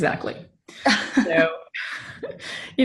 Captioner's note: chuckling